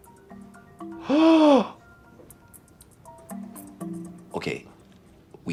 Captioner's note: dramatic music; gasping